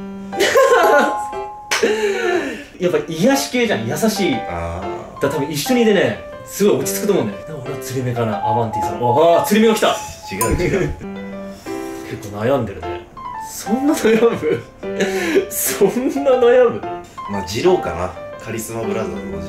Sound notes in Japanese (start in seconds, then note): 8.4 玄関のチャイム音